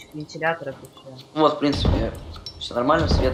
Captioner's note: hitting smth